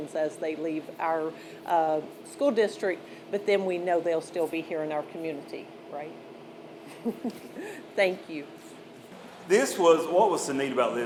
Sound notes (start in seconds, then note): 6.8 laughs